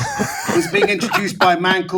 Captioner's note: all laughing